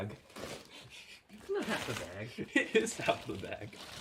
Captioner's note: laughs